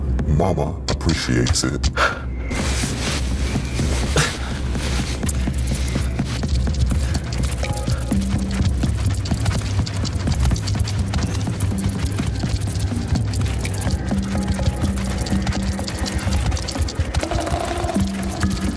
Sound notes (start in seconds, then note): 3.2 ominous music; 7.0 scorpions scurry